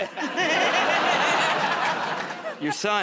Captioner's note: laughter